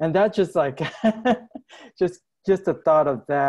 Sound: laughs

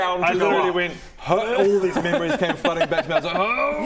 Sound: hrrgh

